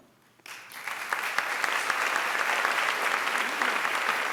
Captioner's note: applause